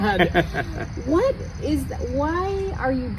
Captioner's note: laughs